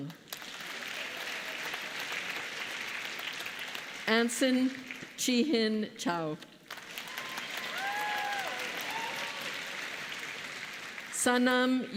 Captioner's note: applause